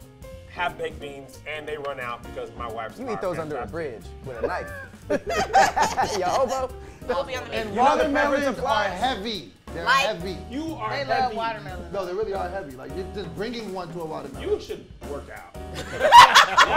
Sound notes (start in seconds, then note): 4.2 laughing